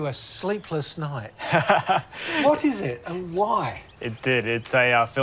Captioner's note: laughs